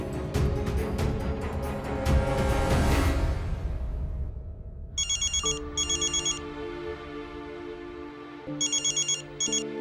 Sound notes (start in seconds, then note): 5.0 mobile phone ringing